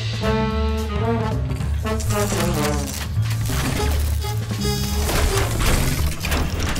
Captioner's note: machines whirs; electricity crackles